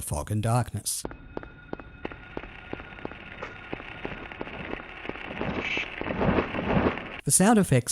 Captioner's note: static - combined with footsteps and flapping wings